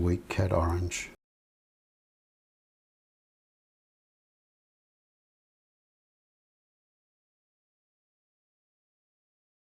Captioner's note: silence